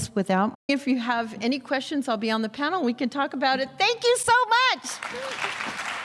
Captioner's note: applause